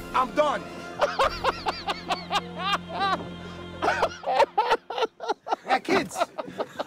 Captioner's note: Dana laughs hysterically